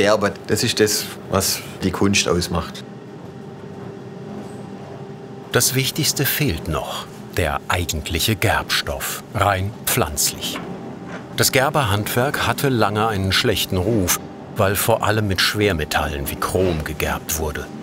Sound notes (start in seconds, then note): none